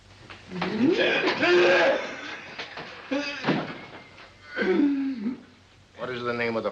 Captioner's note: groaning in pain